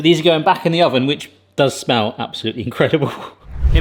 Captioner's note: chuckles